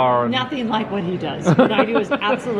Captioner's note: laughing